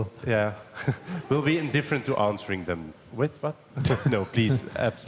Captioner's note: chuckles